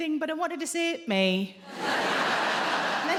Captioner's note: in a deep voice